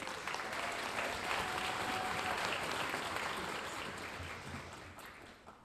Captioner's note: audience applauding